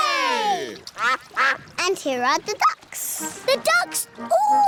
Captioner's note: quacking